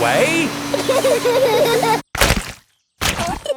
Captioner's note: laughter